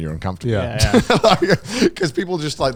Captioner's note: laughs